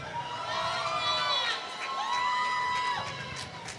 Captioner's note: applause